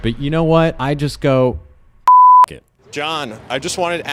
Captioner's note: beep